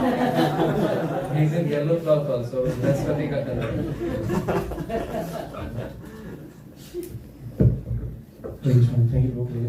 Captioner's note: laughter